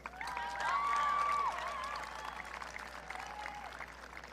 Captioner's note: audience cheering